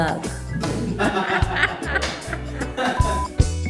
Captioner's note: laughter